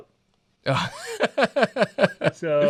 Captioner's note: laughs